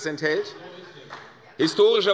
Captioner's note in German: Beifall bei Abgeordneten der CDU